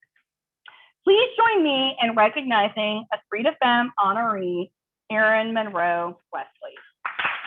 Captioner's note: applause